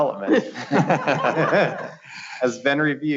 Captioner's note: laughing